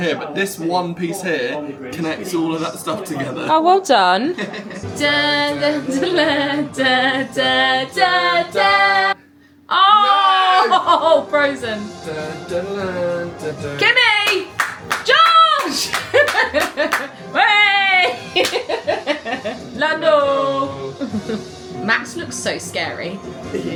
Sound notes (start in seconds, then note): 4.3 laughs; 4.4 hum; 12.5 hums; 16.1 laughs; 18.2 laughs